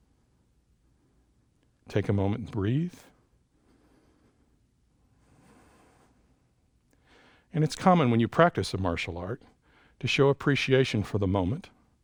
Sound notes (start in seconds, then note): 3.4 inhales; 5.0 exhales